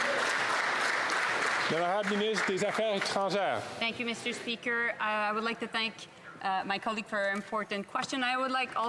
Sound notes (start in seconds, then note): 3.2 off mic; 5.7 speaking french